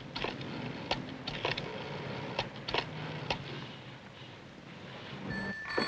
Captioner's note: telephone dialing